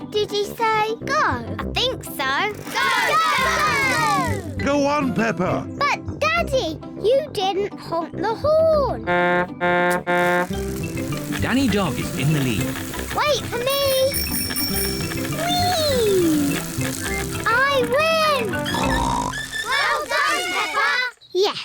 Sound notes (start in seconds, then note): 9.0 honks horn; 13.5 rings bell; 18.4 snorts